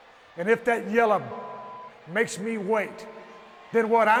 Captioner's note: beep